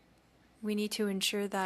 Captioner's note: speaking French